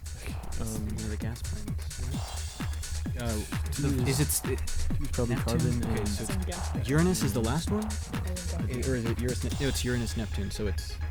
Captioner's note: whispering